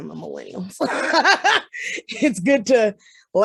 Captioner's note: laughs